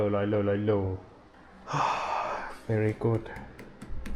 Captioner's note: sigh